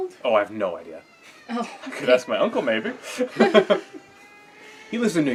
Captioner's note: laugh